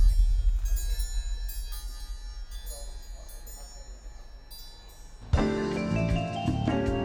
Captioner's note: tinkling bells